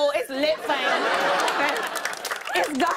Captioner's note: laughter and applause